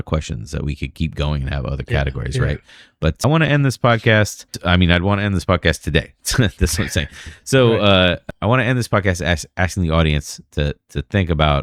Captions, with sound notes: questions that we could keep going have other categories. Right. But I this podcast mean I'd podcast today. That's I'm saying. So [UH] I end this podcast asking the audience to to think about